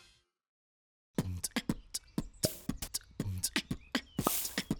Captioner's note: beat boxing